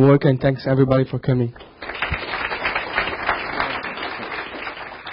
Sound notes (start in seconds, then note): 1.6 audience applauding